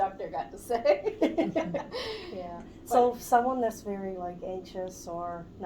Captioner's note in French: Rires